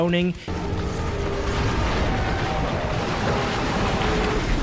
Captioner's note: metal scraping